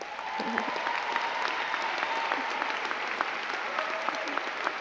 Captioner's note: crowd cheering and clapping